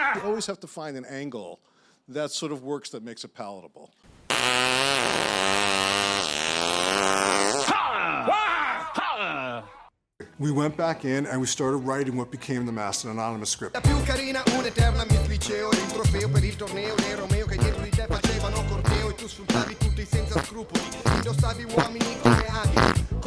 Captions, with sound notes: You always have to find an angle that sort of works, that makes it palatable. *long, deeply offensive farting and fuck-sounds* We went back in and we started writing what became the Masked and Anonymous script. *farting in time with footsteps*